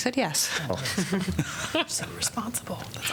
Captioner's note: laughter